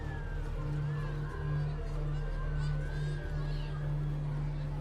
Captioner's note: people chattering